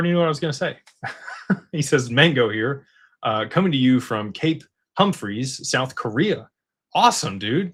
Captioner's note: laughter